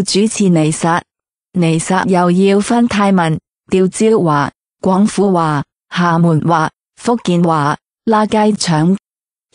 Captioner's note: Cantonese; Hokkien